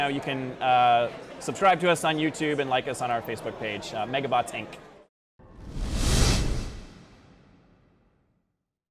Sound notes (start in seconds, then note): 5.4 swoosh